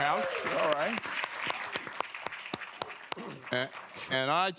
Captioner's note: applause